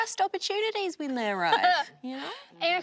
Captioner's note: laughing